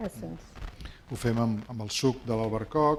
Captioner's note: speaking spanish